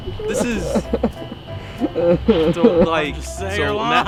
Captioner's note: sobbing